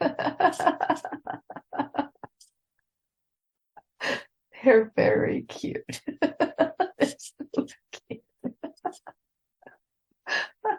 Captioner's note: laughter; laughter